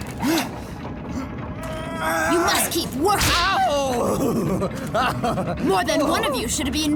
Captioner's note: aroused moaning